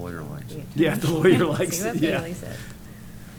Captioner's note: laughs